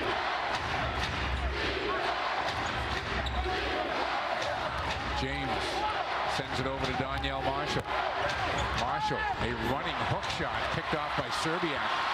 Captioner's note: crowd chanting "defense"